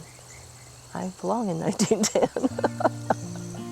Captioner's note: laughs; gentle music